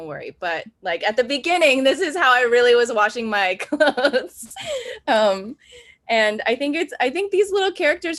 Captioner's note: laughs